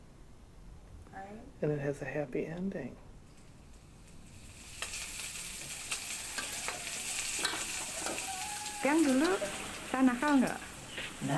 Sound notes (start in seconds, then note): 3.2 sizzling